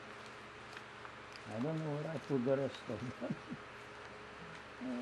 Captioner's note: laughing